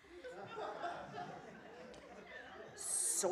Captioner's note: laughter